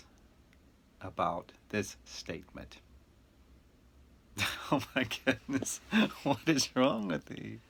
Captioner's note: chuckling